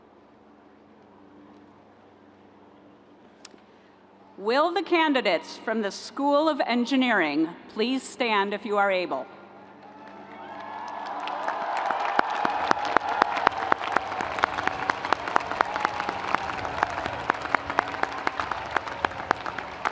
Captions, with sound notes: - Will the candidates from the School of Engineering please stand if you are able. (audience applauding)